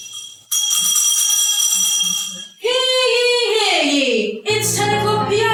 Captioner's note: TOWN CRIER, ringing a bell